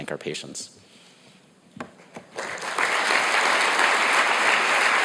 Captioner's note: audience applauds